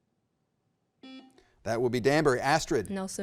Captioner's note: button beeping